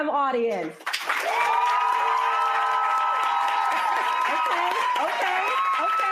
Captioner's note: cheering and applause